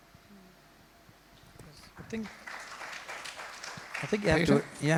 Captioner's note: crowd applauds